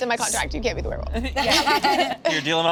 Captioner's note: group laughing